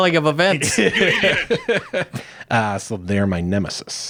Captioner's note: laughing